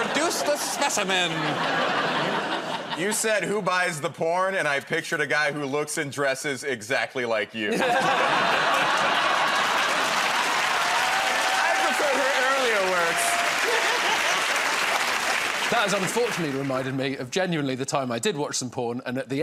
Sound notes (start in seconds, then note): 7.6 laughter; 10.5 cheers and applause; 13.8 cheers and applause